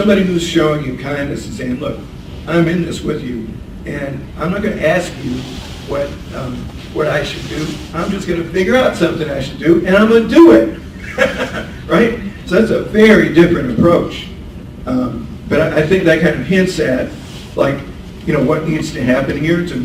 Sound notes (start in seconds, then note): 10.7 laughs